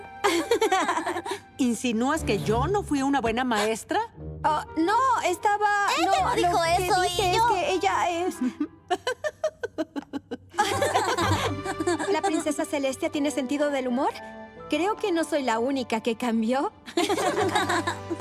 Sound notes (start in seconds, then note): 0.2 giggles; 8.2 laughing; 16.9 laughter